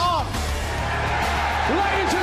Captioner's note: audience cheering